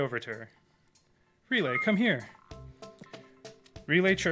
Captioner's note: robot beeps